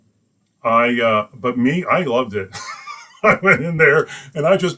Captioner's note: laughs